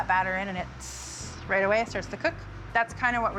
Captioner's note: hisses